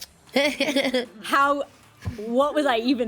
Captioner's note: woman laughs